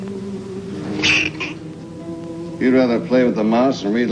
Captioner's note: hamster squeaking